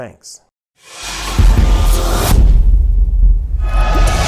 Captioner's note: air whooshing